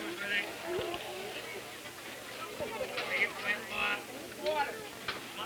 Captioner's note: crowd chatter